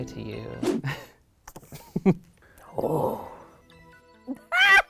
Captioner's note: laughing